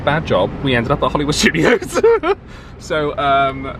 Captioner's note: laughs